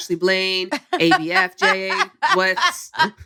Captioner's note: laughter